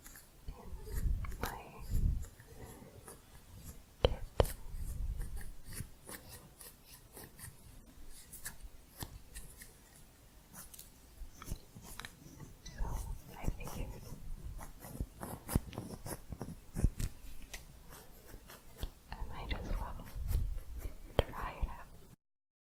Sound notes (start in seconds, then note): 5.0 scissors sounds; 14.6 louder scissors sounds